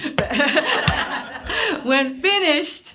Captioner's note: laughing